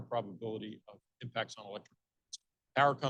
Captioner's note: speaking faintly